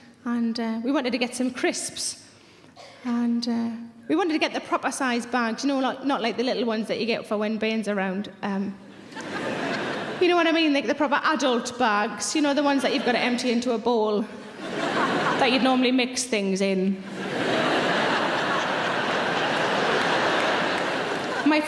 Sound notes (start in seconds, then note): 8.9 audience laughing; 14.4 audience laughing; 17.0 audience laughing; 17.4 audience applauding